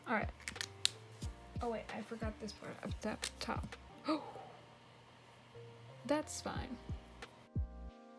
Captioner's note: gasps